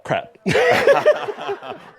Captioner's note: they both laugh